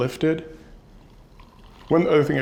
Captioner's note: champagne pouring